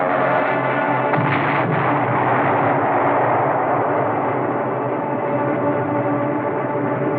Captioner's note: explosion